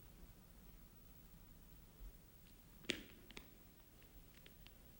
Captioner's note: none